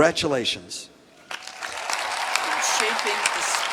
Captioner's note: applause